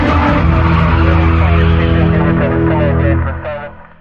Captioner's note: policece radio c chatter